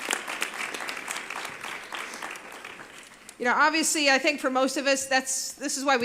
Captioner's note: applause